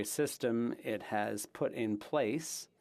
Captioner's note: speaking French